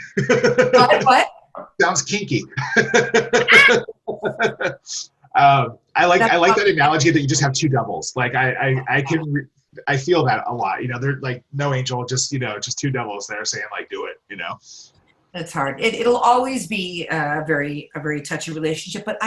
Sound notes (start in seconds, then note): 0.0 laughs; 1.6 chuckles; 1.8 laughs